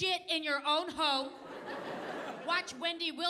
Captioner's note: audience laughing